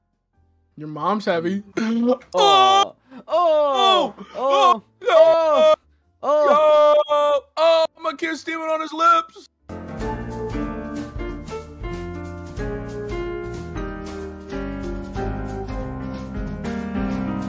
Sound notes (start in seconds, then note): 2.9 inhale; 3.2 both OHHHHH-ing